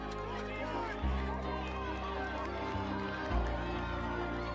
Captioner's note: cheering